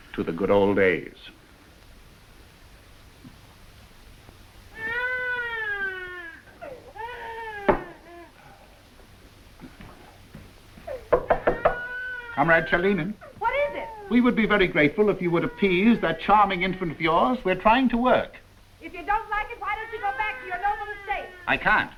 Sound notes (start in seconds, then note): 4.7 baby crying